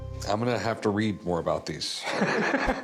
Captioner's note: laughter